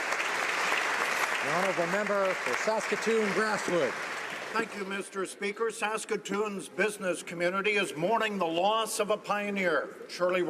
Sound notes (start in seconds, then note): 2.6 applause